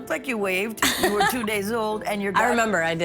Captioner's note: laughing